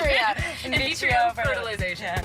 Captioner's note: laughing